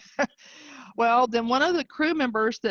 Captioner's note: chuckling